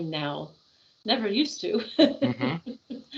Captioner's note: laughing